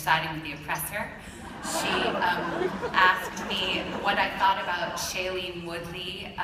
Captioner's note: laughter